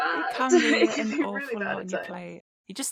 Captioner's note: pained laughter